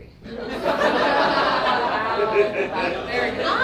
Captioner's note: laughing